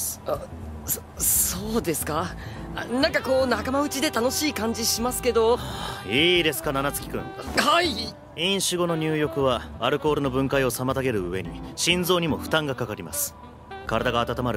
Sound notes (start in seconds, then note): 5.5 sighs